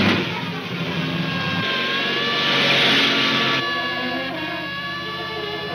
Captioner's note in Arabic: سيارة تهتز بشدة